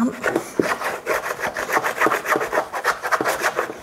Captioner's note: scratching sound